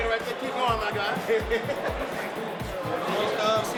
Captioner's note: laughs